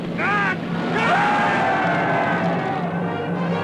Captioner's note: yelling; dramatic music